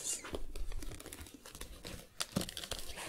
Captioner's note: creaking, shuffling